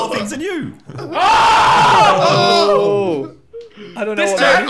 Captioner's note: yelling